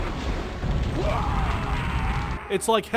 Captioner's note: death scream